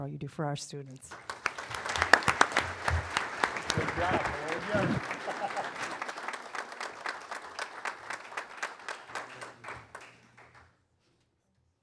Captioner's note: applause